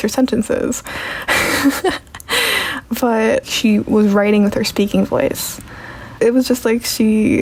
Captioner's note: laughs